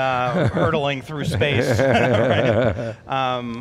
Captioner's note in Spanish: risas